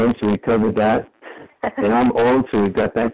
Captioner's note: chuckles